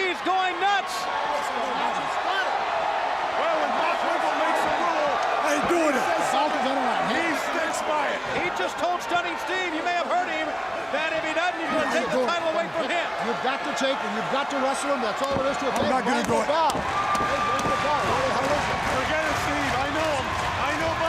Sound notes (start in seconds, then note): 7.2 crowd chatter; 17.5 crowd chatter